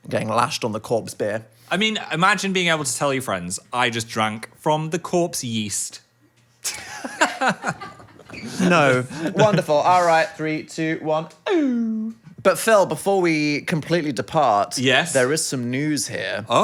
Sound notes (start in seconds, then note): 6.7 laughs